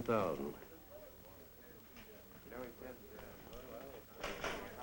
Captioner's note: chattering